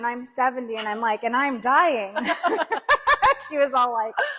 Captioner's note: laughs